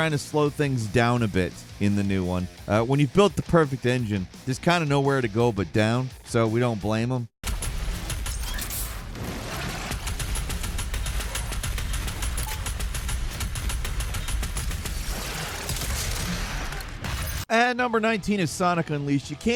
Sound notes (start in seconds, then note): 7.8 machine gun firing